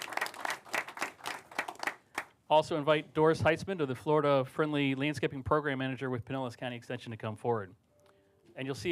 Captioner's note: applause